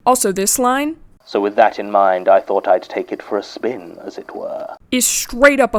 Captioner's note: playing audio from podcast